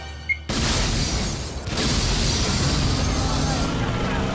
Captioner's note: explosion booms; engine roars; police shout